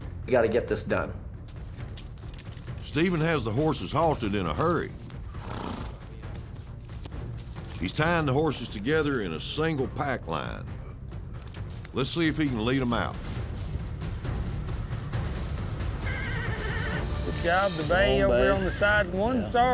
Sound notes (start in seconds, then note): 4.8 horse blusters; 16.0 horse neighs